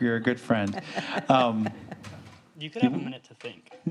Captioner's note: laughing